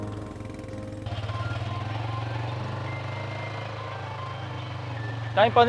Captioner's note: phone ringing